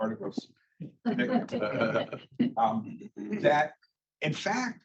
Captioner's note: laughter